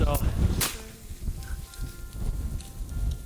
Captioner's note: gun fires